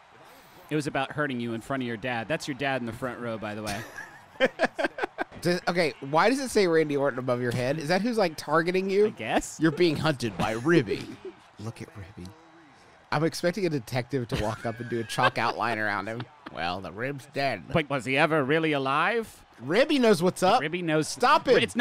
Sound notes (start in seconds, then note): 3.7 laughing; 16.5 imitating noir detective